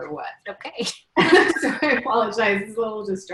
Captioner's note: laughing